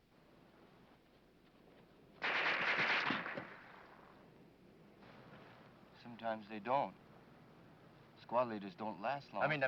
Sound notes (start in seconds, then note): 2.2 gun firing